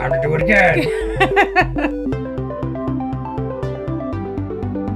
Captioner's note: laughs; upbeat music